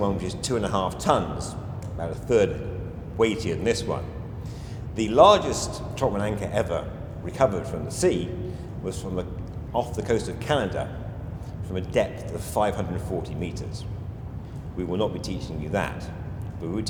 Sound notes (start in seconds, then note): 1.5 hand taps; 4.3 inhales audibly